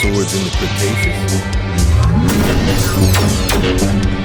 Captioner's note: laser sounds